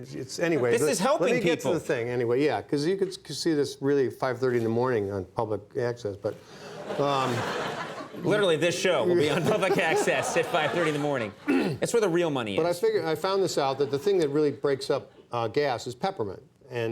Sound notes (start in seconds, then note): 6.6 audience laughing; 9.2 Bill laughing